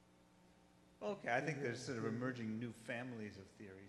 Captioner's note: voiceover